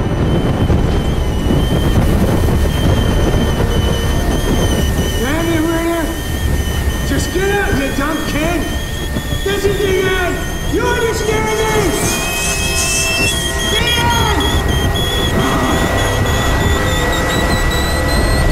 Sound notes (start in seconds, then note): 11.7 pressure valve whistles; 14.5 pressure valve whistles